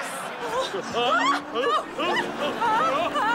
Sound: yelling

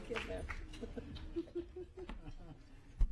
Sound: applause

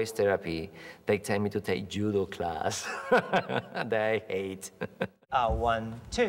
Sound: laughs

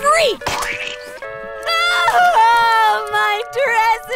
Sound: crying

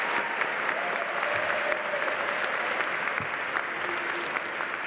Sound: audience applauding

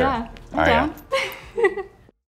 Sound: chuckles

